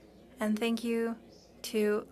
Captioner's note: speaking French